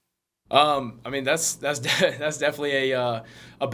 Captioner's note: laughs